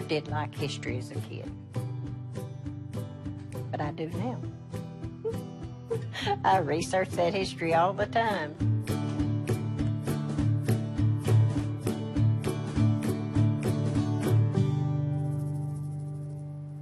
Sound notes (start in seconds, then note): 5.8 giggles